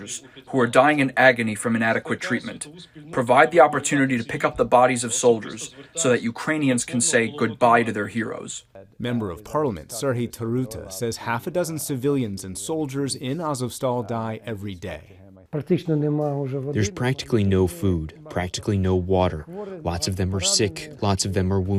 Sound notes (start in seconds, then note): 16.3 through translator